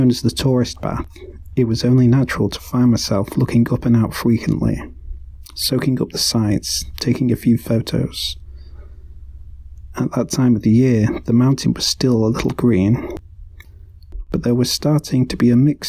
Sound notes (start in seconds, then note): 8.3 hiking sound fades